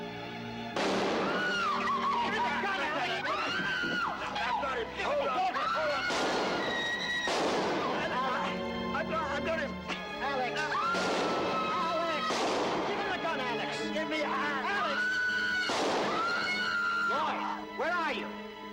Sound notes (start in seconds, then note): 5.9 gunshots; 14.7 screaming